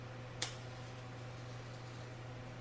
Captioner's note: match being lit